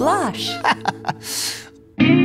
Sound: chuckles

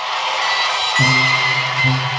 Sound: aplausos

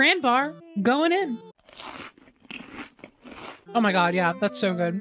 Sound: chewing

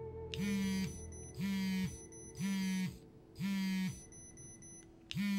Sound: phone vibrating and beeping

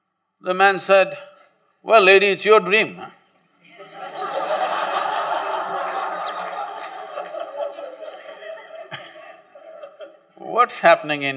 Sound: laughter

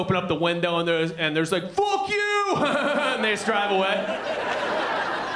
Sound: laughing

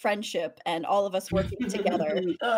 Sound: laughs

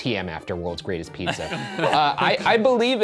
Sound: all laughing

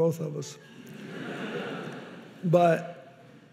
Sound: audience laughing

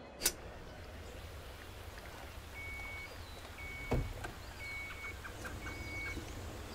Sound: birds chirping; water trickling

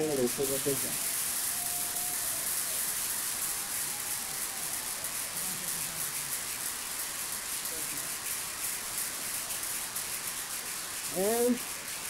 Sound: applause

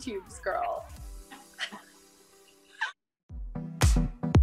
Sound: laughs

